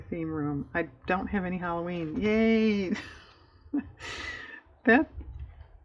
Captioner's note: laughs